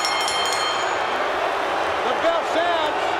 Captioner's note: crowd booing